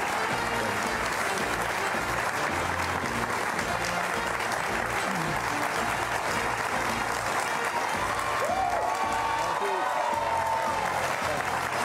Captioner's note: applause